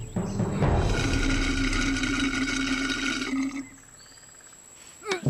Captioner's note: slurping